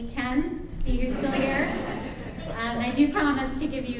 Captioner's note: audience laughs